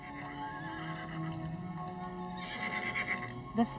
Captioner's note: neighing